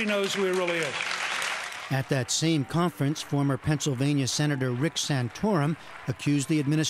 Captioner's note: applause